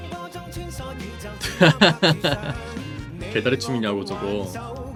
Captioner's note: laughing